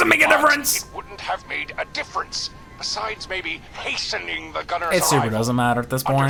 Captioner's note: laughs